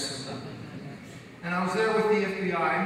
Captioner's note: audience laughs